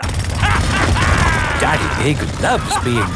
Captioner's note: drilling and laughing